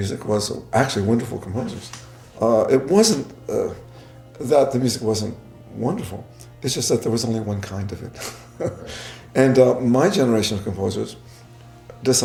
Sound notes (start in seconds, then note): 8.1 laughing